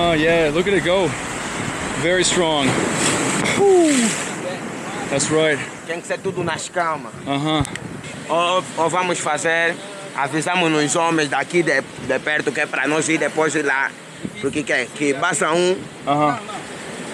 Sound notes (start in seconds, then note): 2.9 waves crashing